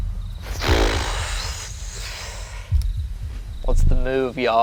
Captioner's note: blows raspberry